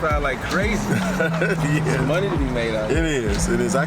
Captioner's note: laughs